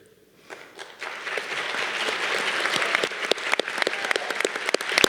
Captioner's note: audience cheering